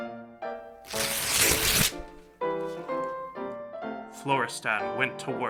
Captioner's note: paper tearing